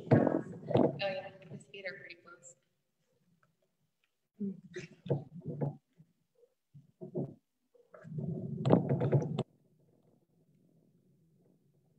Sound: pause

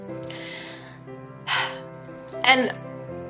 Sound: sigh

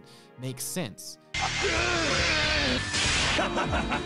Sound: yelling; laughing

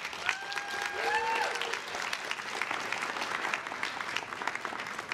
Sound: crowd claps and cheers

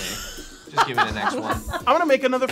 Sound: laughing

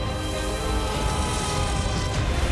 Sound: yells

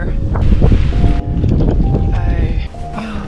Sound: rain & wind

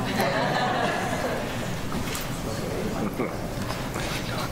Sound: attendees chuckle

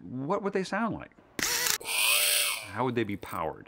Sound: whirring

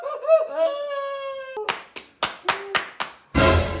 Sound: clapping like when you get shots hahahaha

